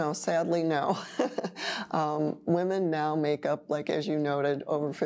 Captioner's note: laughing